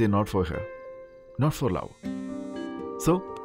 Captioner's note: Phone vibrating